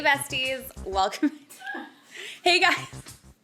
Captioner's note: laughs